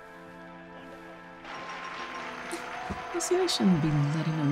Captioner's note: audience applauds